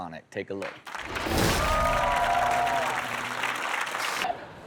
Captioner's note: audience applauds